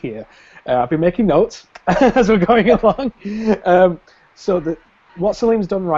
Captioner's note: laughs